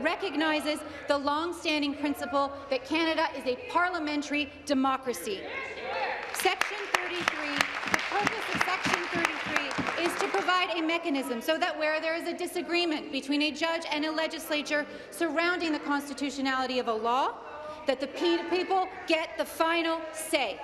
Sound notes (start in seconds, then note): 9.9 applause